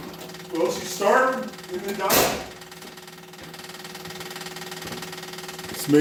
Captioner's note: engine cranks, starts & dies